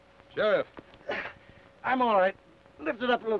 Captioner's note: grunts